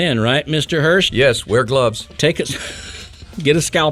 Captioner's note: laughing